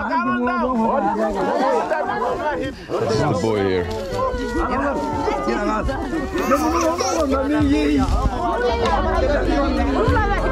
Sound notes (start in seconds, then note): 0.3 villagers shouting in a foreign language; 6.1 baby crying